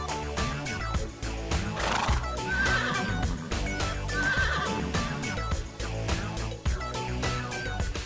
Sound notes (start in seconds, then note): 1.7 horse snorts; 1.7 horses neighing